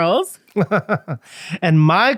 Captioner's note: laughing